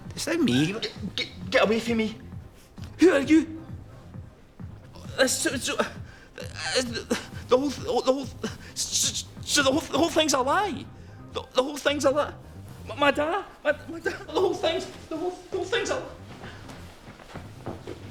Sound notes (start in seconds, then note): 13.4 sobbing